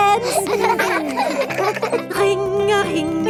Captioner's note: giggling